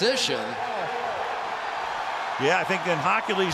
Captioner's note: cheering